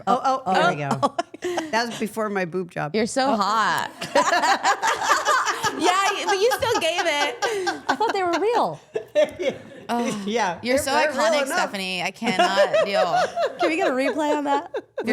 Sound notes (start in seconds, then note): 3.8 all laughing